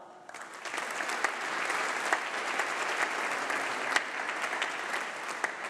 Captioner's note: applause